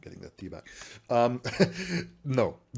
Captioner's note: laughs